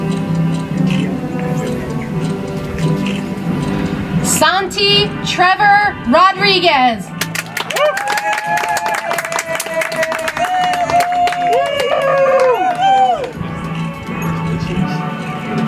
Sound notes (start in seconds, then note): 10.8 audience applauds